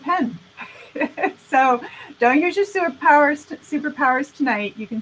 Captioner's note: laughing